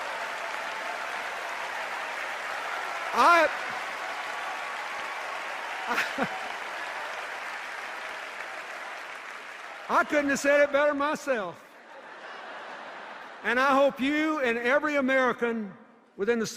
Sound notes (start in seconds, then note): 3.5 laughter, cheers and applause; 11.8 laughter